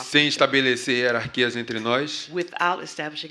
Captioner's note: speaking portuguese